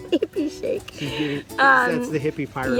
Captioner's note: laughing